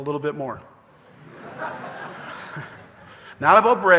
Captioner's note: audience laughing